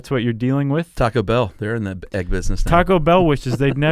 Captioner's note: laughs